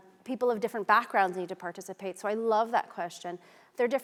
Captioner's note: none